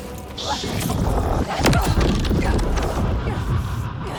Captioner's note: grunting